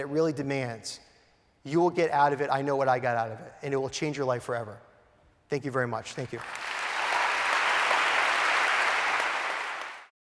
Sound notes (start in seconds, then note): 6.2 applause